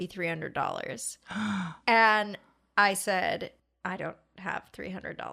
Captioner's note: gasp